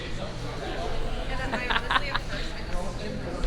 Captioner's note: laughs